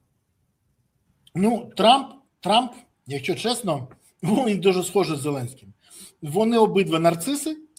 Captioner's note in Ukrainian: сопіння